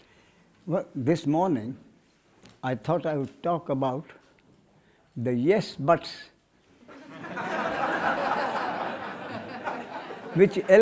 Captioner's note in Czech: smích